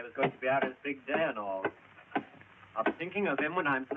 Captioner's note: picks thudding